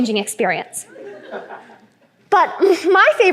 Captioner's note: laughter